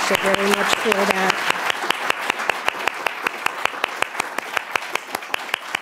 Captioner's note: audience clapping